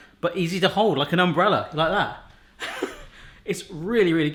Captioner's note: laughs